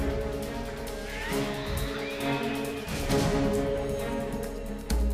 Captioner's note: creatures screeching; dramatic suspenseful music